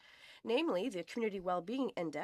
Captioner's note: speaking French